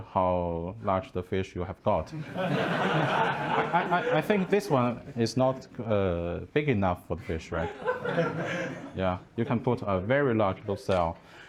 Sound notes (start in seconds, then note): 2.1 laughing